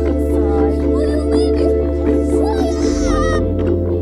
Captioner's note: crying